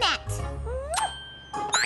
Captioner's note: kiss